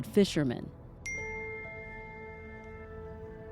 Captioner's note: phone chimes